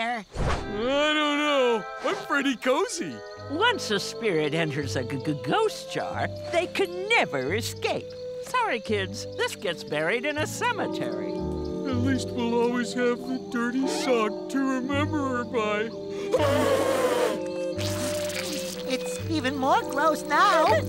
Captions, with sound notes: I don't know. I'm pretty cozy. Once a spirit enters a g-g-ghost jar, they can never escape. Sorry, kids. This gets buried in a cemetery. At least we'll always have the dirty sock to remember her by. [blows nose] It's even more gross now.